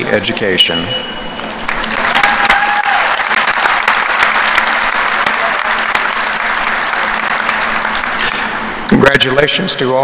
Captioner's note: applause